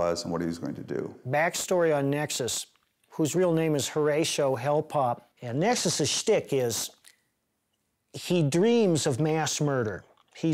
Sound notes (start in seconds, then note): none